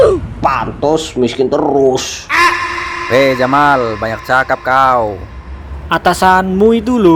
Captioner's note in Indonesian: berteriak